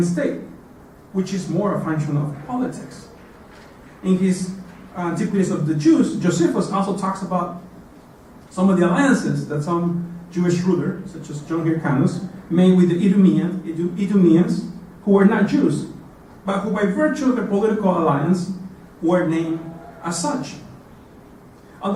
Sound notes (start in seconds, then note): none